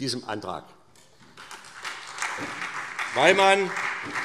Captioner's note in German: Beifall SPD